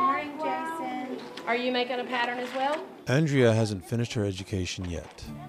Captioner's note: kids talking